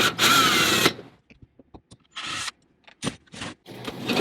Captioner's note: drilling noise